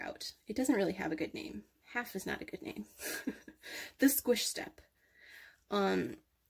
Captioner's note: chuckles